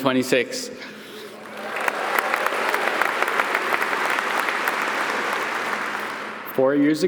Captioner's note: audience applauding